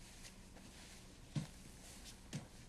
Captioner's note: none